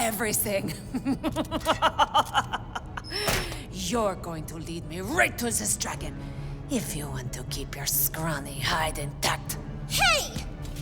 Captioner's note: starts to laugh maniacally